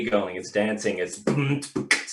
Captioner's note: beatboxing